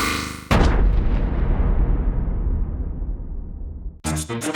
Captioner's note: boom!